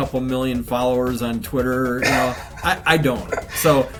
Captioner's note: man snickers